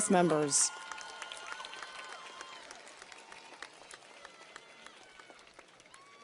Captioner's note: audience cheers and applauds